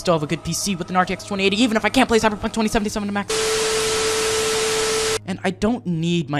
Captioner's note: static sound effect